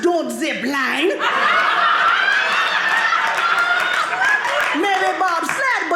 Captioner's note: audience laughing